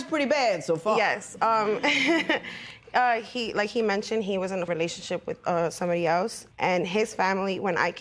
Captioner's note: laughs